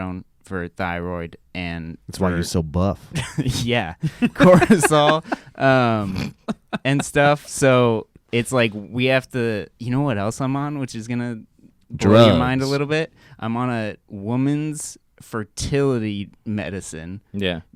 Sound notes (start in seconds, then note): 4.0 laughs